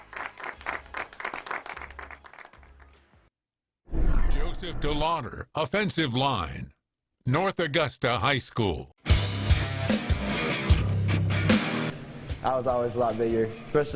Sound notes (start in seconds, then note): 3.4 people snapping; 11.7 upbeat rock music